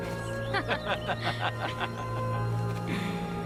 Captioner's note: laughing